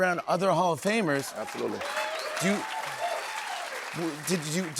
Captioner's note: cheers and applause